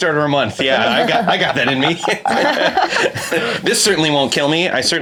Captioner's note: all laugh